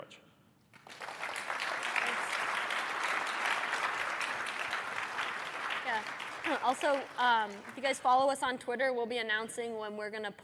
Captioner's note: applause